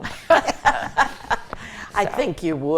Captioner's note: group laughs